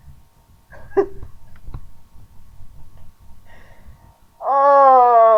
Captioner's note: chuckling